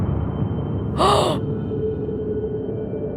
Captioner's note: gasp